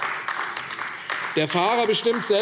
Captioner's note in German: Beifall AfD